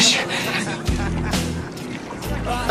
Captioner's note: laughing